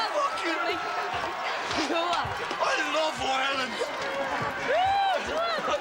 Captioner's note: sollozos